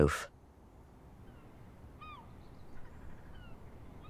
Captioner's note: seagulls caw